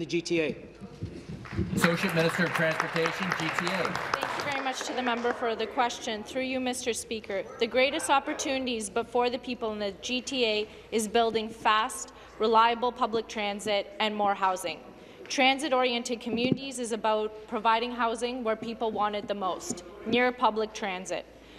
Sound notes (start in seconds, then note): 5.7 applause